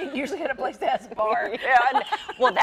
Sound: laughs

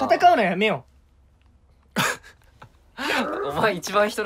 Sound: awkward silence

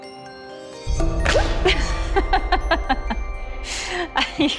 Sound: laughs

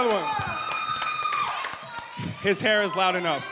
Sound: audience cheering

